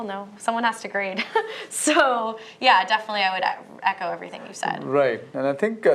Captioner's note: laughter